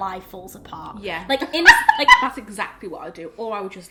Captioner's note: laughs